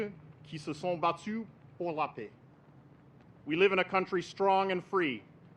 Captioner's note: speaks French